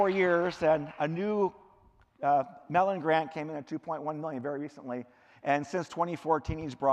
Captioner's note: cheering; clapping